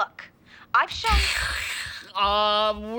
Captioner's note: making static noise